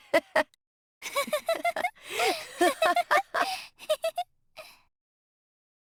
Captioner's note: evil chuckle; more evil chuckles